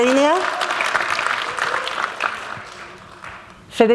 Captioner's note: applause